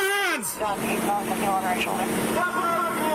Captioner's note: radio chatter